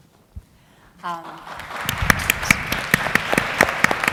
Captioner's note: applause